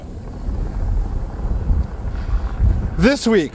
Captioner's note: air whooshing